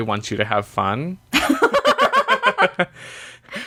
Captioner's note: laughs